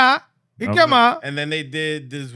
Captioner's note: speaking In Foreign Language